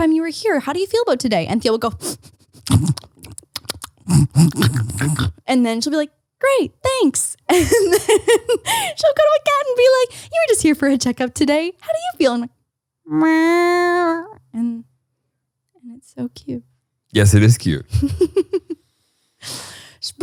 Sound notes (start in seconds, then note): 2.4 snuffling; 13.2 meowing; 17.9 laughs